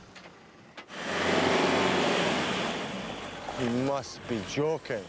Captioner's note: engine rumbling